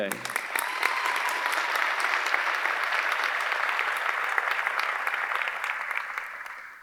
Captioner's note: audience applauding; audience cheering